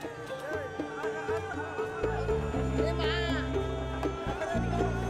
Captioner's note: people speaking foreign language